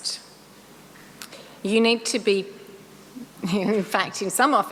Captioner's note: laughs